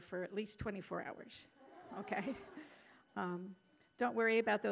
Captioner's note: audience laughing